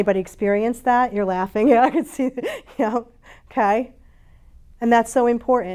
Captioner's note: laughs